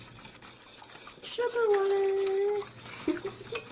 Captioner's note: singsongy; giggles